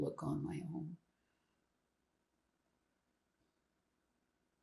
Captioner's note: pauses 4 seconds